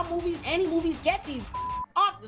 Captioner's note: beep